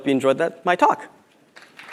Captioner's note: applause